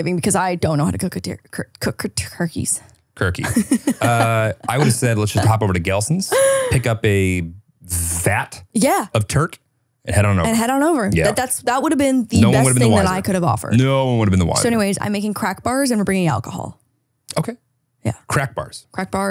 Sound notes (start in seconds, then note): 3.4 laughs